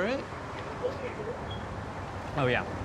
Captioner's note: alarm beeping